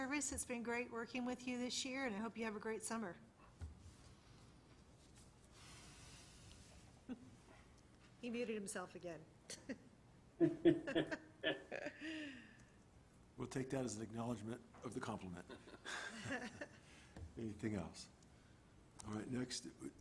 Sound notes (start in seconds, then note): 7.0 chuckles; 10.4 laughter; 15.4 laughter